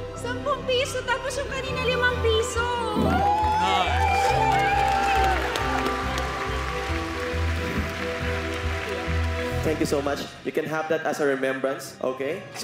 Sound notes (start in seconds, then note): 3.0 audience cheering